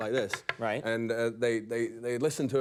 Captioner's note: tapping wood